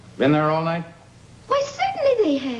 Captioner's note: none